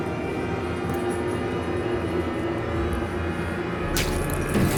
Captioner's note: foot thudding; explosion blasting; liquid sloshing